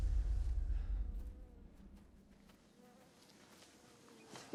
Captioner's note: flies buzzing